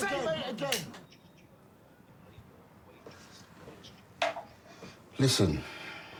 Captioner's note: voice echoing